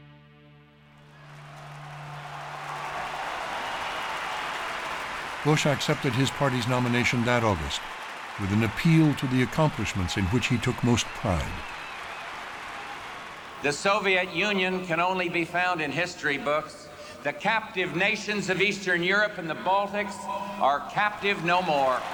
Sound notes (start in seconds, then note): 0.2 cheers and applause; 2.6 cheering